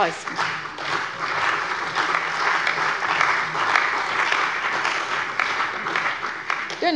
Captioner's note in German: Beifall bei der CDU und dem BÜNDNIS 90/DIE GRÜNEN